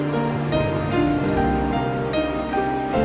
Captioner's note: grumbles